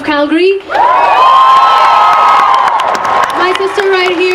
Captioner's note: cheering